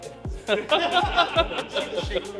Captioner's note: laughing